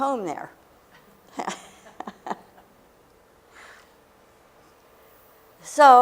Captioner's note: laughter